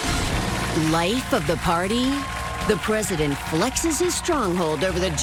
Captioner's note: applause